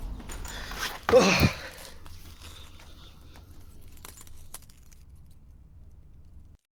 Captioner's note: glass crunching